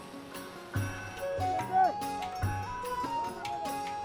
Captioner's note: horses bells ringing and horsemen shouting